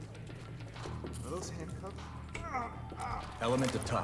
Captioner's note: grunt